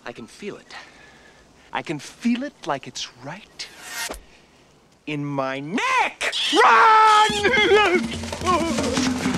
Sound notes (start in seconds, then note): 5.1 yelling